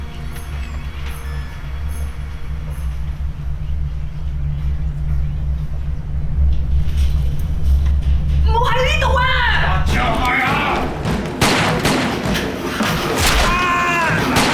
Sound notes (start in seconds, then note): 10.8 gun fire